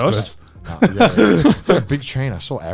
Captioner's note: men laugh